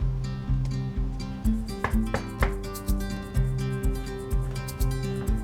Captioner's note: knocking on door